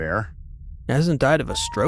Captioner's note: high-pitched cooing sounds continue